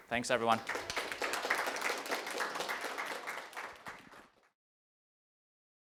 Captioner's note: attendees applauding